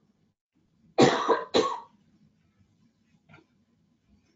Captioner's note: coughs